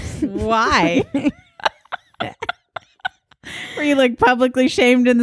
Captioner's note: laughing